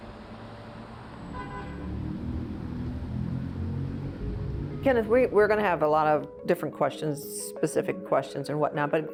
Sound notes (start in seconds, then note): 1.2 car horn honking